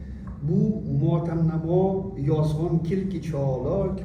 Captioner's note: non-english speech